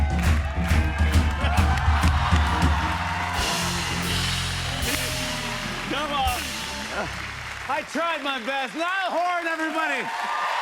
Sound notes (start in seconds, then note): 1.7 audience exclaims; 3.3 cheers and applause; 9.6 cheers and applause